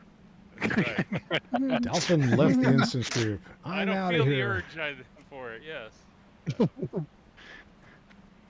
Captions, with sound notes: [laughs] I don't feel the urge for it, yes.